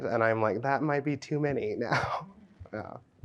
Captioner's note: laughs